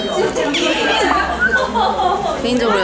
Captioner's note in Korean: 휘파람 휘휘